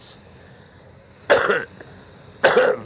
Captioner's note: coughing